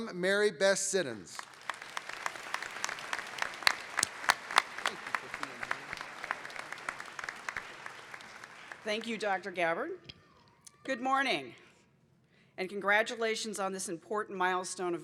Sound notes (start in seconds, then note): 5.3 applause